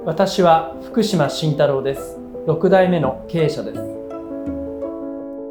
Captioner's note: speaking in foreign language